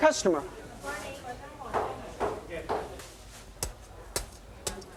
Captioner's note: speaks Chinese